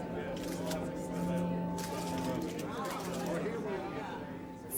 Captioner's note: camera clicks